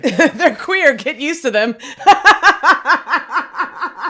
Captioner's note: laughs